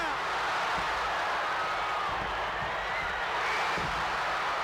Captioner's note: crowd cheers